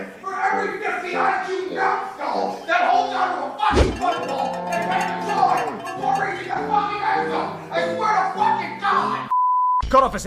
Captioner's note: this background rant continues for several minutes